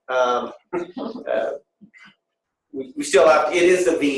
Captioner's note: laughter